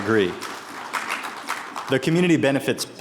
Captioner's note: attendees applauding